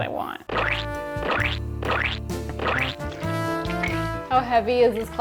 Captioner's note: splattering sounds